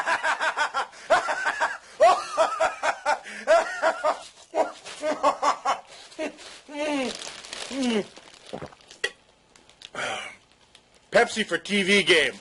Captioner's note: commercial man laughing maniacally